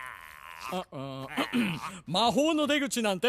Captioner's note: clears throat